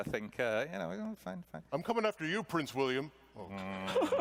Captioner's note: laughter